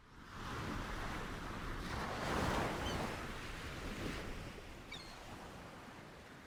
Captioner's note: ocean sounds